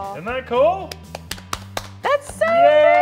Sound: claps

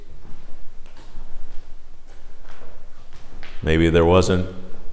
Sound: footsteps tapping

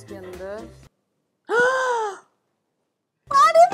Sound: gasps

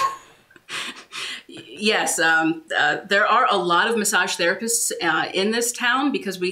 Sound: laughs

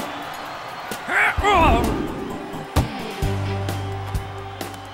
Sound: grunting

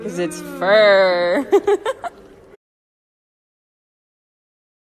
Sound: laughs

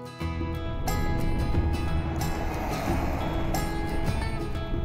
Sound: car accelerating

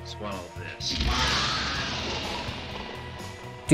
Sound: loud screaming

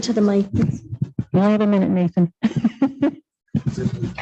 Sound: laughs

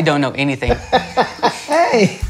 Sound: laughter

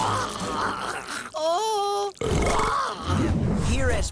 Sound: vomiting; belching

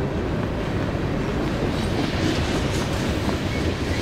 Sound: train rattling

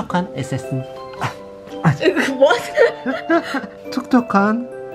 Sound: gasping

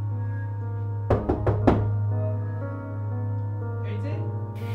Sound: knocking

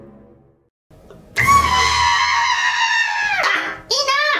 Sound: screaming

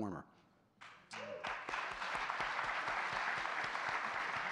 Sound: audience clapping

